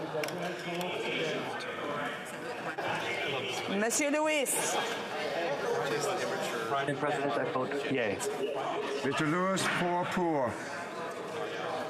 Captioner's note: speaking French